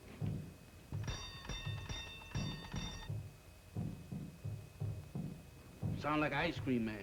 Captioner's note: doorbell ringing